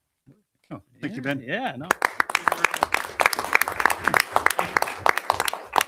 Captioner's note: audience applauding